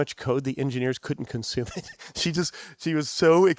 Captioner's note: chuckles